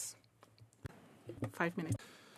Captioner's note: speaking French